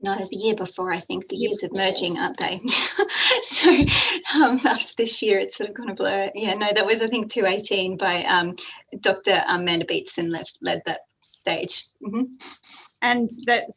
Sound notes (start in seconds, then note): 2.6 laughs